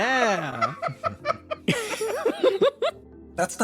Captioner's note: laughing